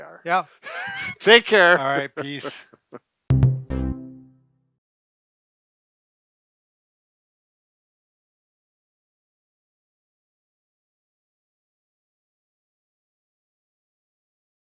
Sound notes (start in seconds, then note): 0.6 both laughing; 3.3 light melodic music